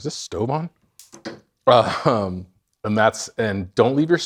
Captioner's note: stove switch clicks